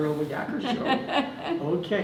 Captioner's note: laughter